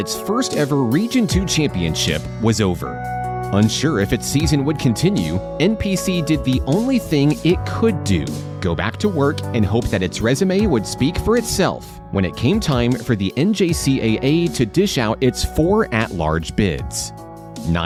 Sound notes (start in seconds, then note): none